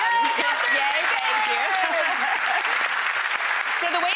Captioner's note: audience claps